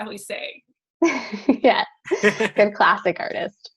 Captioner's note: laughs